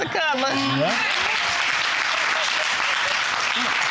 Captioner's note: audience applauding